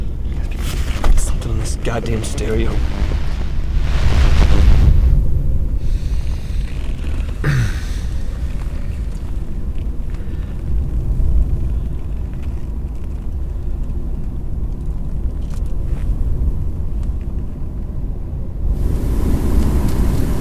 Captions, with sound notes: Something in this goddamn stereo. (dramatic music) (wind blowing)